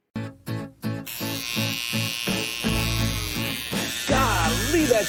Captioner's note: needle buzzing